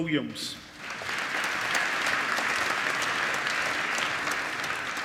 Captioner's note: applause